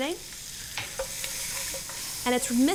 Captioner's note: food sizzles